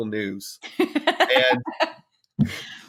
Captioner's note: laughs